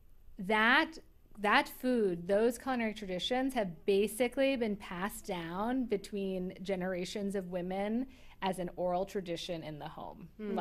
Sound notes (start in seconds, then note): none